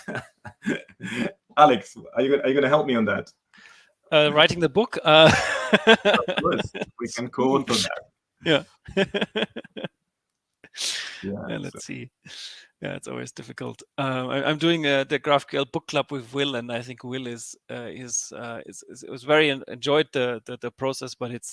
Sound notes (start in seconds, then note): 5.2 laughing; 7.6 laughs